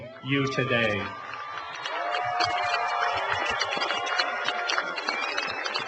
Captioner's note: cheering and applause